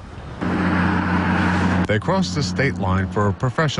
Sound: nat sound-- traffic

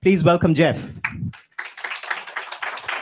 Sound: applause

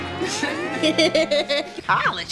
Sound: laughing

